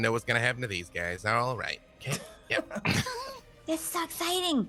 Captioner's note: people laughing